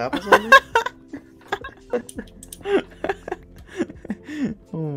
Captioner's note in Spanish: risas